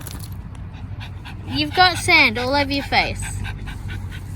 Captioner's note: Ollie pants obliviously; Ollie snuffs again and loudly shakes her head